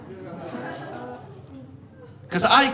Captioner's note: audience laughing